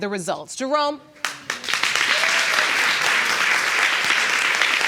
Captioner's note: audience clapping